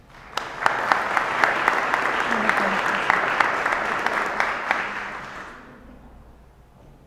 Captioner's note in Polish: oklaski